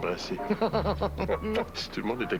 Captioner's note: Rires